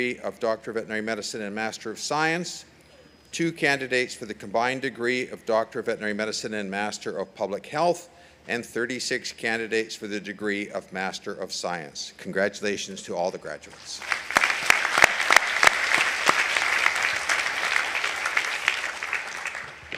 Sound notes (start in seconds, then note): 13.9 audience applauding